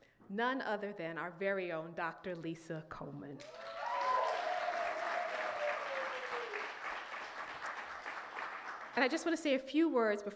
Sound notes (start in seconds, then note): 3.4 audience clapping and cheering